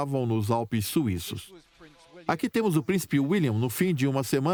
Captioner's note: voiceover